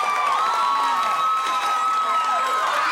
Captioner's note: cheering